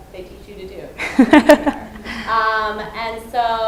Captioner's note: laughter